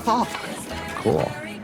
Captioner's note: chanting